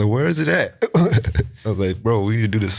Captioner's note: chuckles